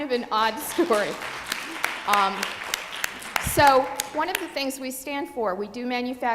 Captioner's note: applause